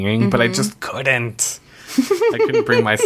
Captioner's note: laughs